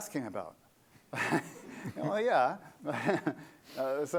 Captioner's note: laughter